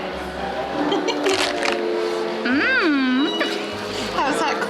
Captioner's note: laughing off screen; laughs; crunch; laughs